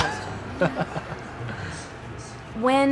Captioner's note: laughs